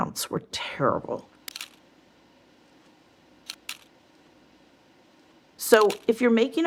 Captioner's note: slides clicking